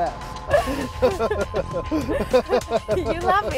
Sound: both laugh

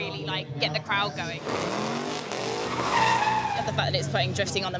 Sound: tires screeching

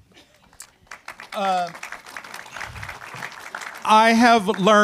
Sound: audience applauding

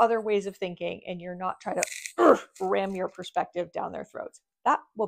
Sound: grunts

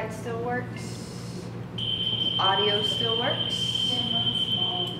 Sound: beeps

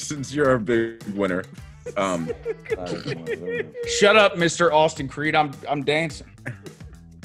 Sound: laugh; laugh

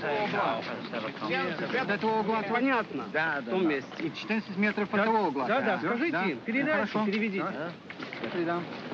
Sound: speaking in foreign language

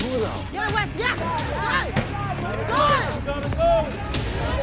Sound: yelling and cheering

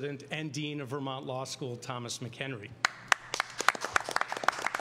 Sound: applause

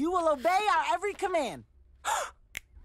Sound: gasps; snaps fingers

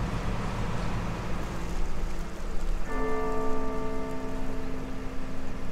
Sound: bells ringing in distance

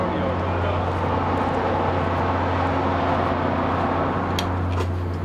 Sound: wind howls

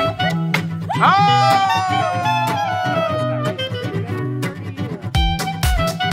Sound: cheering; club beat

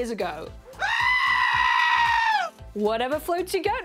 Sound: screams

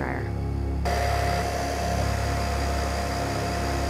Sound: blow dryer whirring

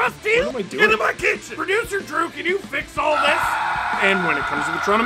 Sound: screaming

